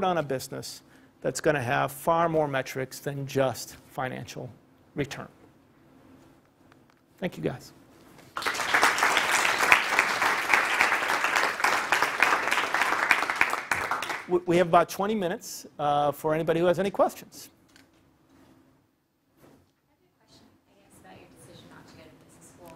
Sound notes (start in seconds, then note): 8.3 applause